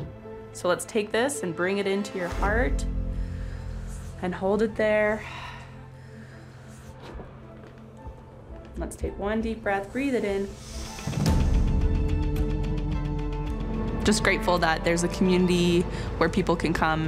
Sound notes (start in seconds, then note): 10.9 inhaling